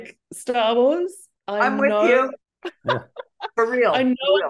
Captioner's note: laughing